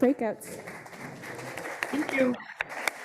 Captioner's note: audience applauding